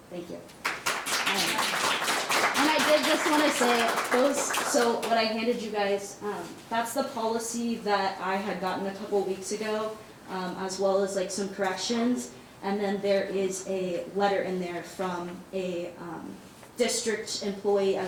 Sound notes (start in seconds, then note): 0.6 all claps